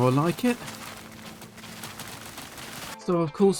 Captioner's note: more harvesting noises